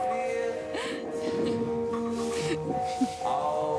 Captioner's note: laughing